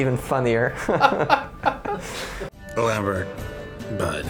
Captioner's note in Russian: смех